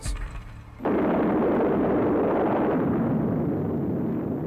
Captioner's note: explosion